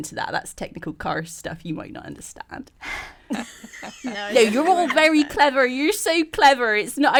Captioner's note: all laugh